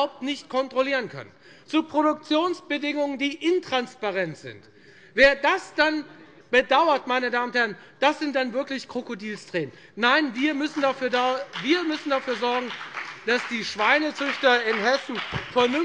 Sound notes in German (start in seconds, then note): 10.1 Beifall bei der FDP